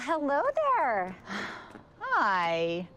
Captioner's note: sighs